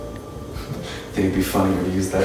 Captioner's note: chuckle